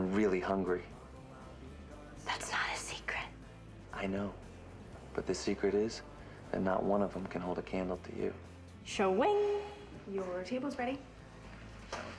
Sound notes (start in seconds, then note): 3.1 whispers